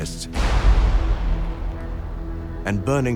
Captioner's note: explosion